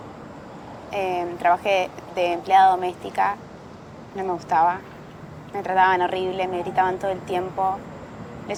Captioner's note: none